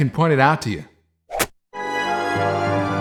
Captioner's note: stab